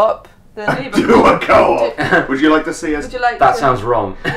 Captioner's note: laughs